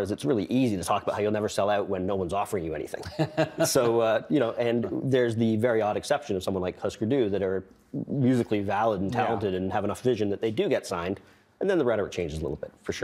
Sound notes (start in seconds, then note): 3.0 laughing